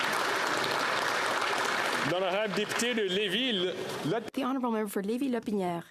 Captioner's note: applause